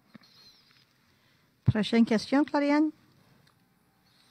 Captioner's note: speaking French